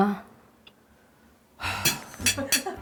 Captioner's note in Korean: 날숨; 들숨